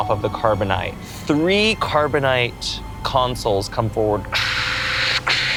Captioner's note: whooshing